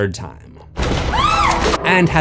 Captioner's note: screams